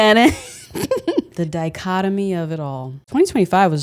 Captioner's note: laughs